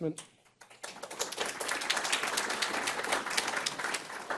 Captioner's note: applause